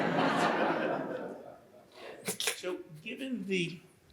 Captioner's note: audience laughs